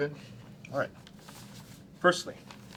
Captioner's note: papers rustling